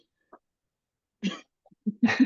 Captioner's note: laugh